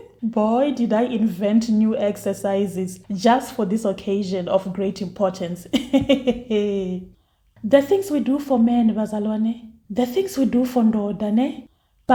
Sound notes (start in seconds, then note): 5.6 laughs